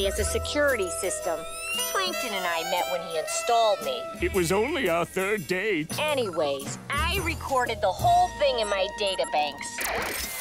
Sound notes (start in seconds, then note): none